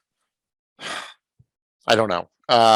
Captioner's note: sighs